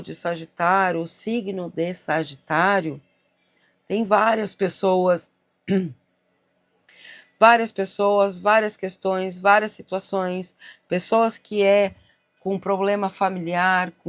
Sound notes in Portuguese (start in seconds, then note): 5.6 limpando a garganta